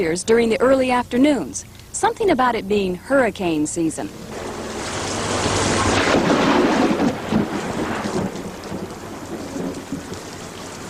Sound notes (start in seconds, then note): 4.2 sound of rain and thunder